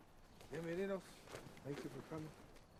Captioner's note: Roland speaking in Spanish